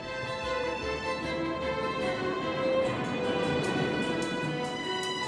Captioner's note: water rushes and burbles